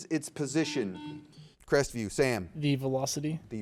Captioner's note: buzzer beeps